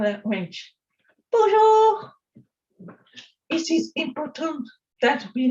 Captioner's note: speaking french